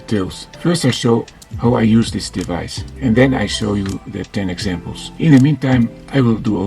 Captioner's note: battery charging